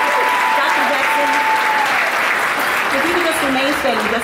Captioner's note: audience applauding